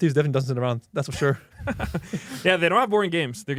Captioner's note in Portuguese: risos